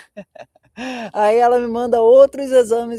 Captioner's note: laughter; sighing